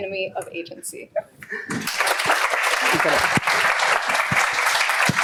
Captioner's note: applause